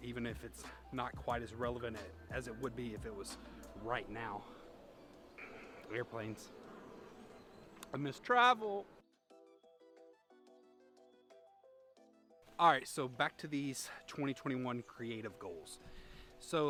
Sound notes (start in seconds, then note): 6.8 airplanes zooming